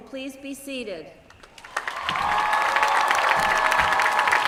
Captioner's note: applause